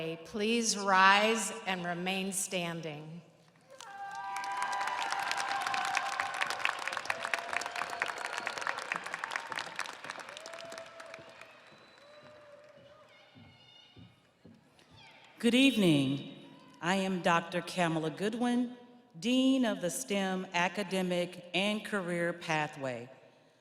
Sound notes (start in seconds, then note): 9.2 audience applauding; 9.2 audience cheering